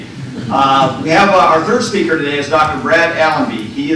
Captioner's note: laughter